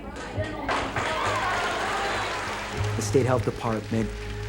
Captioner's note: audience applauding